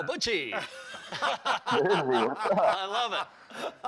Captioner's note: laughter